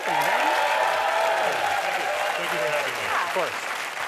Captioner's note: audience cheers and applause